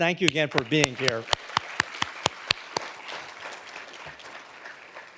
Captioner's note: audience applauding